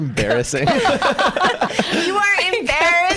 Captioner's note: laughs